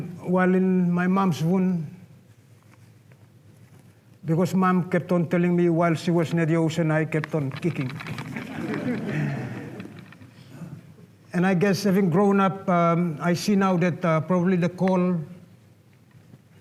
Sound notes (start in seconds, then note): 8.4 laughter